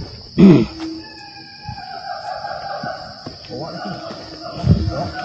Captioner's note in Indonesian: Suara monyet